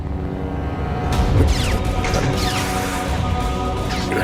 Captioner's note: saber clashes